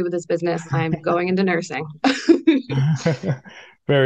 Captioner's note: laughs